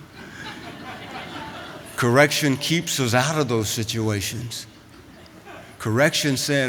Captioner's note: laughter